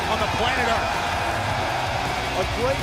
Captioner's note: crowd cheering